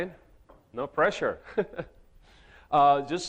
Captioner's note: chuckles